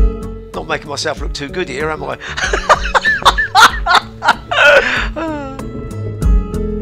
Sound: laughter

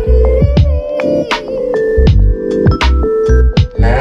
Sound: woman humming

